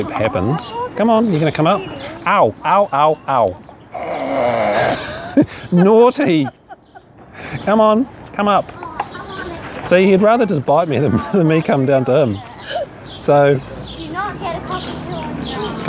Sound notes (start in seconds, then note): 8.7 laughter